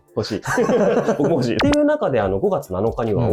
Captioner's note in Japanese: 笑い